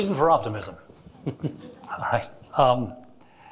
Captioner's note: chuckling